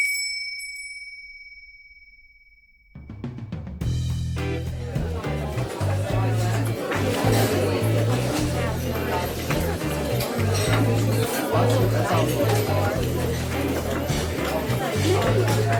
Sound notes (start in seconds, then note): 0.0 bell ringing; 4.7 energetic music; 4.7 patrons chattering